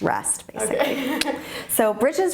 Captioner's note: laughs